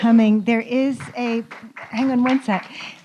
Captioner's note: applause